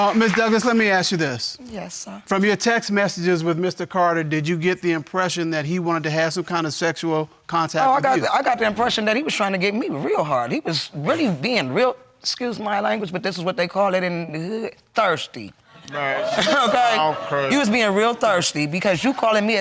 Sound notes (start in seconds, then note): 15.9 audience exclaiming